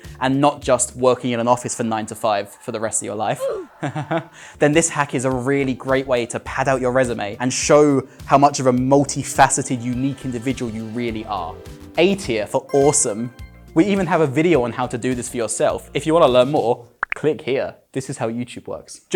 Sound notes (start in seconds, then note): 3.3 nervous laughter